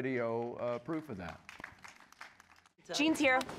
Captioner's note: applause